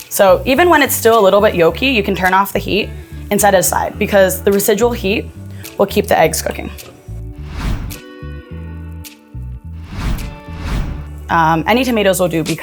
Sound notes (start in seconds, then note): 7.5 instructions whooshing